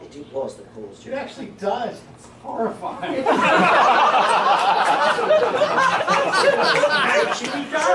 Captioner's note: laughter